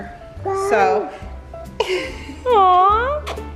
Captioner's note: laughing